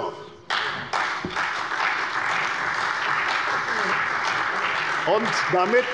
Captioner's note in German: Beifall bei der CDU und dem BÜNDNIS 90/DIE GRÜNEN